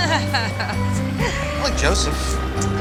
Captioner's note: laughs